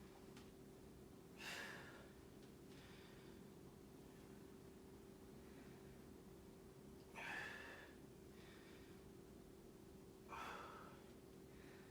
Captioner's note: inhaling and exhaling